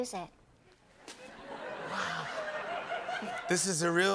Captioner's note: laughter